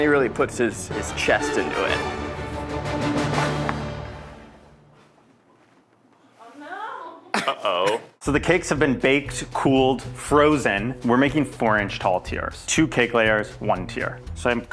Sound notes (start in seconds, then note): 3.8 music stops